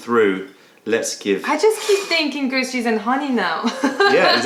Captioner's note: laughter